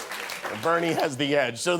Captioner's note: cheers and applause